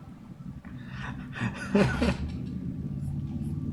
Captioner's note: whimpering; chuckles